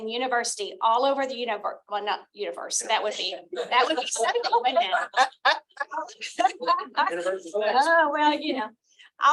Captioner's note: laughter